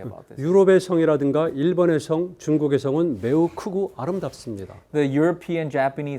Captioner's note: speaking in Korean